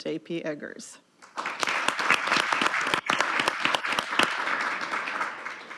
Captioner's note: audience applauding